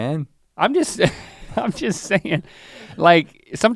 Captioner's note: chuckles